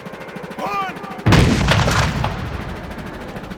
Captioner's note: gunshots